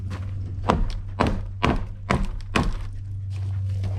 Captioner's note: whacking noises; kick, followed by wood hitting the ground